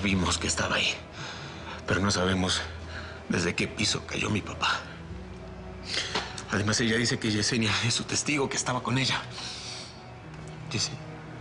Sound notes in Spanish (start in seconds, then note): none